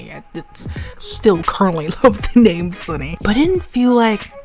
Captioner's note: inhales